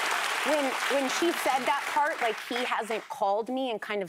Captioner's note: applause